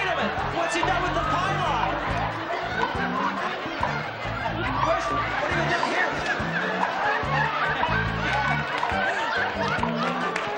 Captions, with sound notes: Wait a minute, what's he done with the pylon? Where's-- What do you got here? -(laughter)